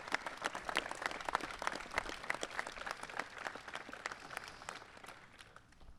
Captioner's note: applause